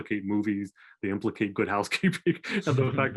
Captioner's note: laughing